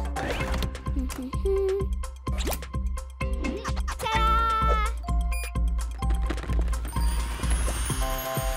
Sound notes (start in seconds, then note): 0.1 giggling; 1.9 humming; 6.6 beeping